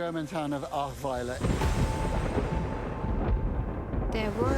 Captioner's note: thunder booming